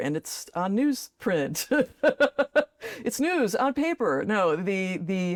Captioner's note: laughs